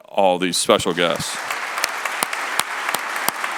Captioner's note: applause